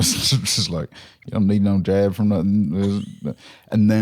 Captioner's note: southern accent